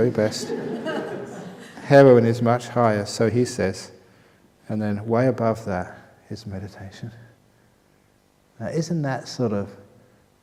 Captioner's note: laughter